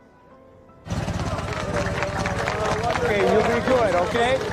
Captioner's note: engine rattling